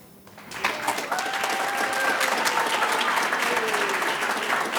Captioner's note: audience claps